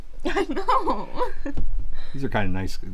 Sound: laughs

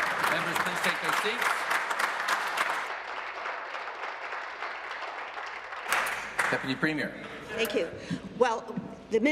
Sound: applause

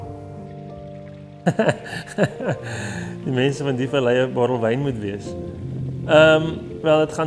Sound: laughter

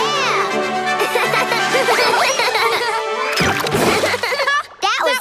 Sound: laughing

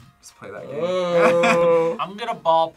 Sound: laughs

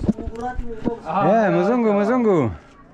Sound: foreign language

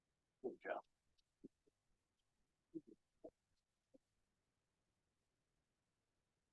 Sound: chuckles

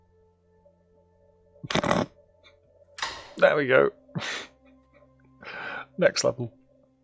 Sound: snickers

